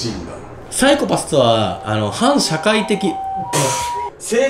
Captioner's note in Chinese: 救護車聲